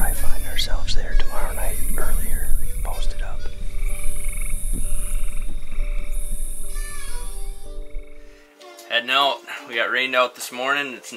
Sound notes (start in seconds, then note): 4.0 crickets chirping; 4.0 frogs croaking